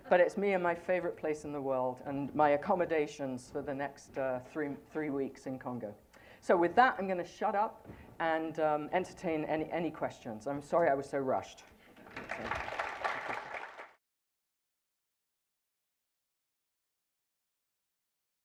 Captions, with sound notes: But it's me in my favorite place in the world and my accommodations for the next three and three weeks in Congo. So with that, I'm going to shut up and entertain any questions. I'm sorry I was so rushed. [APPLAUSE]